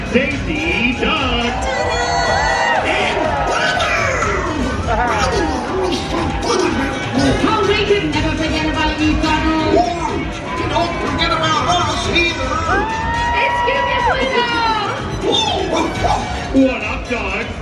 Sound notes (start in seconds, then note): 15.1 Pluto barks